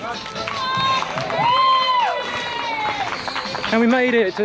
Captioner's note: crowd applauds